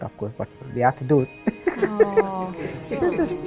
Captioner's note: laughs